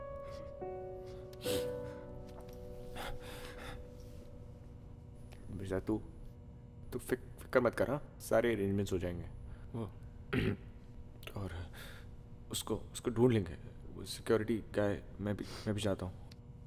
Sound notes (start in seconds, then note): 1.4 Sniffs; 10.3 Clears throat